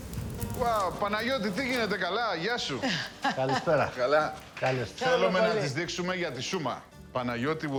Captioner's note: speaking in Greek